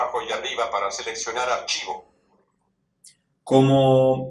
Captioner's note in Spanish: voz del dispositivo